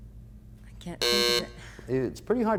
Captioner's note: buzzers sounds